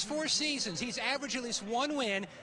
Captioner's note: cheering